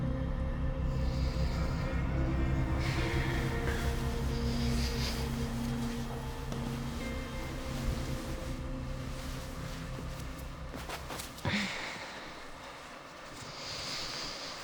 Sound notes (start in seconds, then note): 4.1 sleeping bag rustles; 11.9 Claire sighs